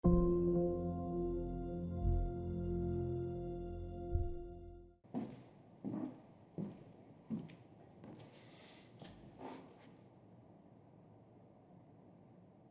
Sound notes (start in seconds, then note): 0.1 suspenseful music; 5.8 footsteps thudding; 9.0 chair creaks